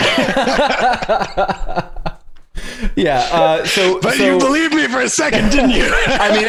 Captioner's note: laughter